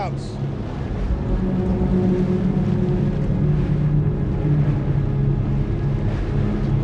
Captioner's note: water sloshing; pensive music